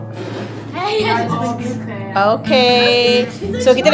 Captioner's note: speaking German